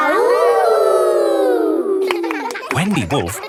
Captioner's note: howling; kids howling